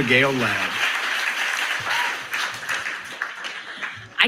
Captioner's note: applause